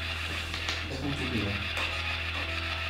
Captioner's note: A softer tapping sound is heard